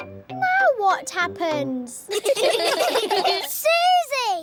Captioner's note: all giggling